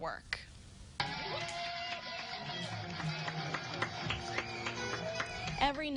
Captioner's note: cheering